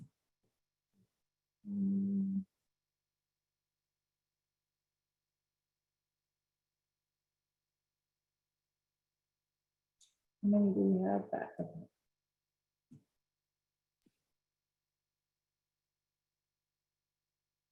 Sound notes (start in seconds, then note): 0.8 silence